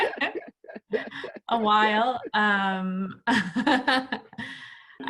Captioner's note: laugh; laughs